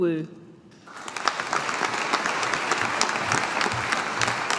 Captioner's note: audience applauding